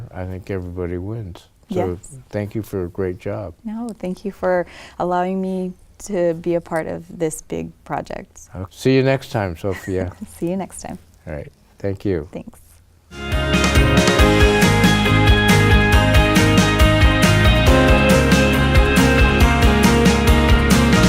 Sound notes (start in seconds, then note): 9.6 laughs; 13.2 upbeat pop music